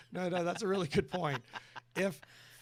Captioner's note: chuckling